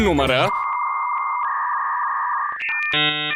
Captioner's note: dial-up tone blares